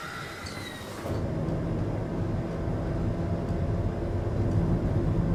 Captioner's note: car engine droning